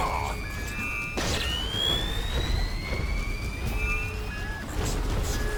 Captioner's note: exploding; dramatic music